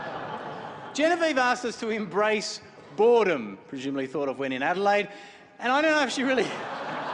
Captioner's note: laughter; laughter; chuckles